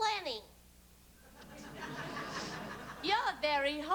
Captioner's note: laughter